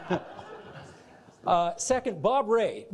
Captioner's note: crowd laughing